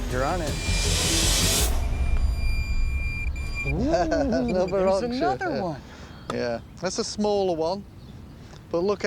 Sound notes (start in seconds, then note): 1.9 beeping; 3.6 laughs